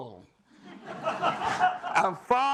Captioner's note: laughter